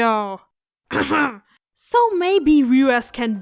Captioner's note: cough